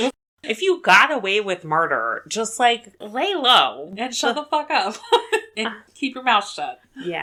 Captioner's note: laughs